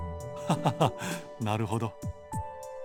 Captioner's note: laugh